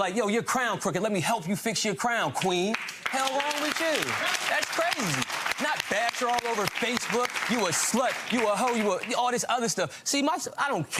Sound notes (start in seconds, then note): 2.7 crowd applauding